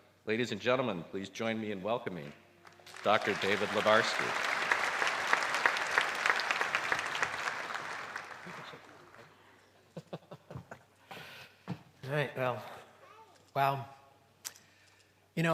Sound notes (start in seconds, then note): 4.4 applause; 9.8 laughs